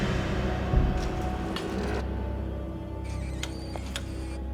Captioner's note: wood creaking